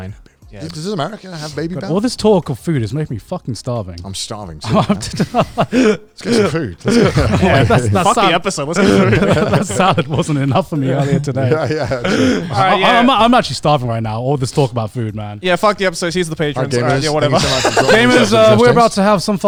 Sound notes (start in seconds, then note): 5.2 laughing